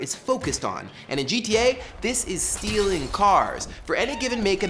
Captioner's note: glass breaking